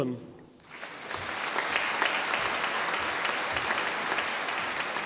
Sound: audience applauding

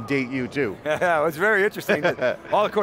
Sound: laughter

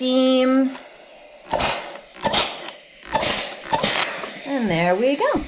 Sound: steam iron whooshing

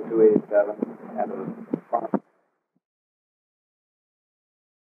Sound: recording cuts out

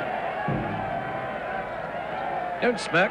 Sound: crowd cheering

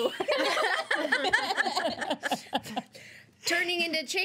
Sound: girls laughing

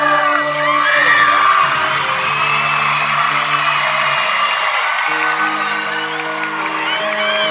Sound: crowd cheering; electric guitar instrumental

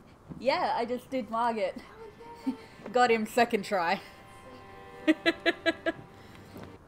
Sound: laughter

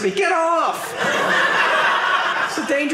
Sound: audience laughing

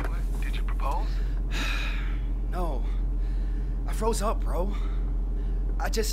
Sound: sighs

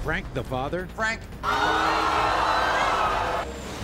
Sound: audience gasps

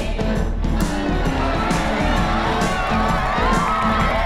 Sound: crowd cheering

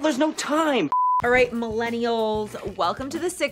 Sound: beep

